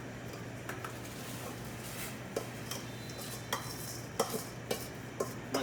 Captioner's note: rice squelches; ladle scrapes against bowl